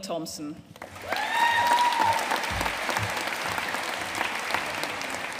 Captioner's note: audience cheering and applauding